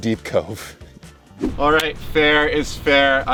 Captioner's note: air whooshing